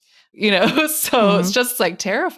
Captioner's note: chuckling